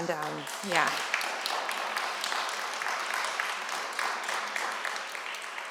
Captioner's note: applause